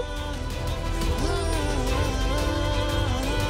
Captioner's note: poignant vocalisation